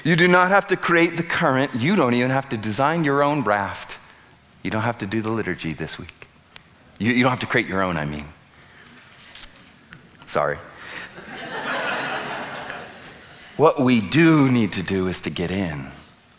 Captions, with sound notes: You do not have to create the current. You don't even have to design your own raft. You don't have to do the liturgy this week. You don't have to create your own I mean. Sorry. [audience laughs] What we do need to do is to get in.